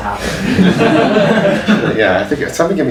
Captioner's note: audience laughs